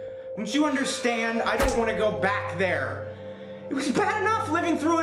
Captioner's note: door clangs open